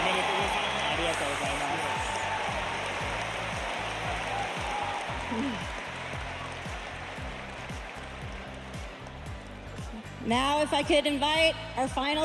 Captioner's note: cheers and applause